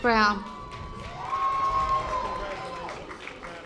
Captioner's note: audience applause